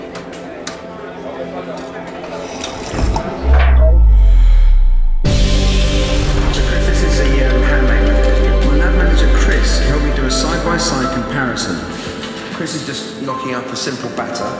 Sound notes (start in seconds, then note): 2.2 sipping sound effect; 2.9 zooming sound effect; 5.3 upbeat music